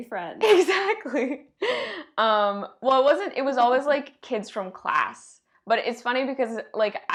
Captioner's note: giggles